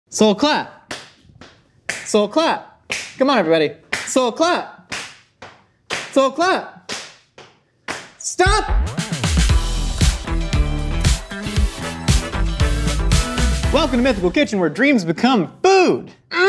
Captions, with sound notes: - So clap. (clapping) So clap. Come on, everybody. So clap. So clap. Stop. (upbeat music) Welcome to Mythical Kitchen where dreams become food.